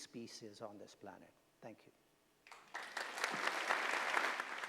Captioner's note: applause